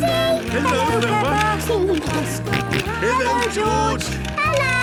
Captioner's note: George giggling and snorting